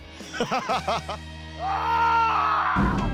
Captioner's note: yelling